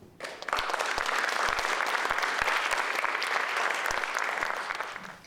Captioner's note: audience applauding